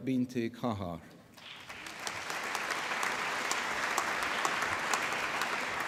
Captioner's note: applause